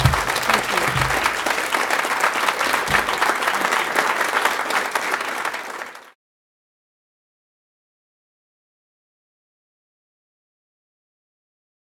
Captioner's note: clapping